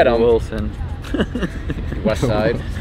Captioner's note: laughing